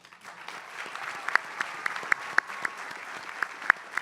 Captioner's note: applause